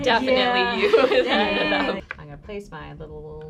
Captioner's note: laughter